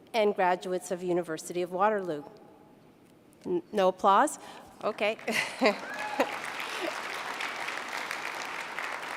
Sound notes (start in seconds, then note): 3.7 laughs; 5.1 applause